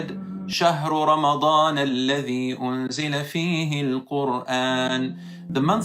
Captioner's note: Arabic